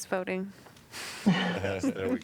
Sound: laughter

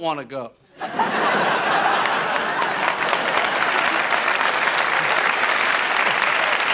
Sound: audience laughter and applause

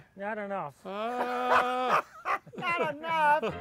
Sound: laughter

